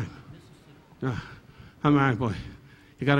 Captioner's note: Don sighing